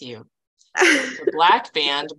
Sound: chuckling

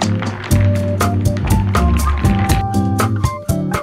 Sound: ice clinking

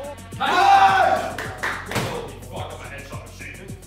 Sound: all cheer

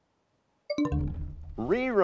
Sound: bell chimes, time expires

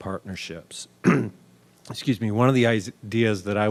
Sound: coughing

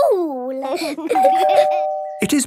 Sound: door bell ringing

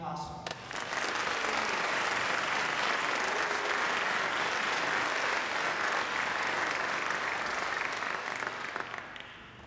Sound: applause

